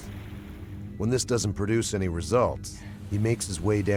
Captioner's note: voiceover